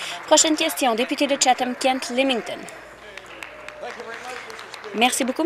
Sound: applause

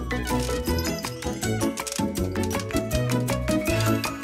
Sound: bell jingles

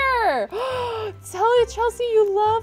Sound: gasping

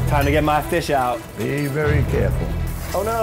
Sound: pops

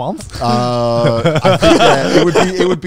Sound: laughing

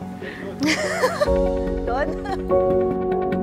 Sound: laughs

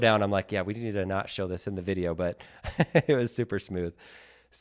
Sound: laughs

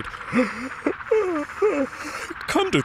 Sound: yawning

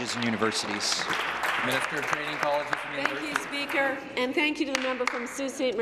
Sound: applause

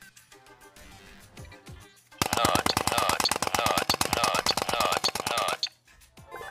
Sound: nut button noises

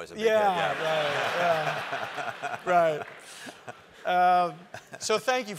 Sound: laugh

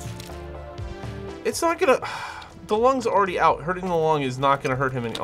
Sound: sighs

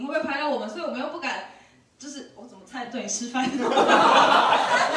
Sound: everyone laughs

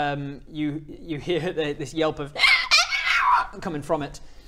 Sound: aaaarghgh arrrrrghhgaa

